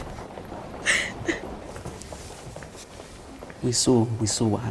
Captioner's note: laughter; sobbing